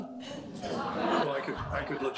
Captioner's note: audience laughing